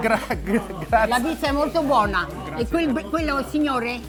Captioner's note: speaking Italian